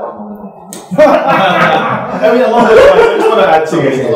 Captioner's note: laughter